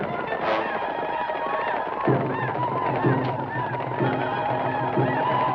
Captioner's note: native Americans howl; gun fires